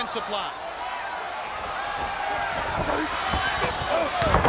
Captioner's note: crowd chattering; wrestler grunts; wrestlers thudding